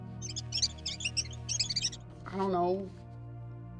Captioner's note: squeaking